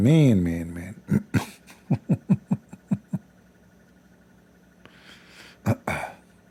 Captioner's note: Ketawa